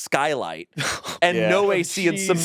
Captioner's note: scoffs